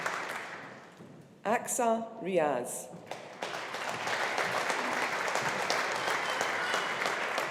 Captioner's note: audience applauding